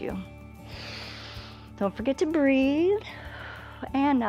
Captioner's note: inhales